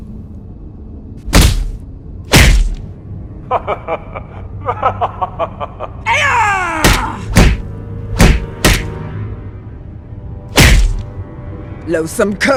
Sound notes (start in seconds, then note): 8.1 laughter!